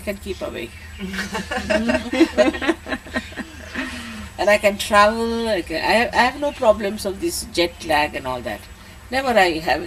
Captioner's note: laughter